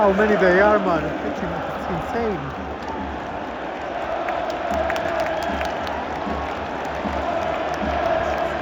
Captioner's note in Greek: Χειροκρότημα